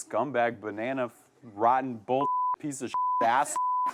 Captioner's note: beep